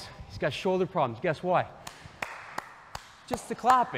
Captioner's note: claps